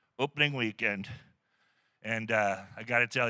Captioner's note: laughter